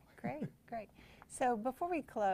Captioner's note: laughs